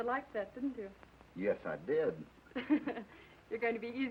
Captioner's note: Lorna laughs